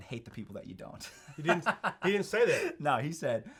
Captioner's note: laughs